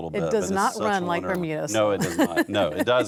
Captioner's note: laughs